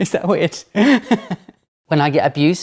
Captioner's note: laughs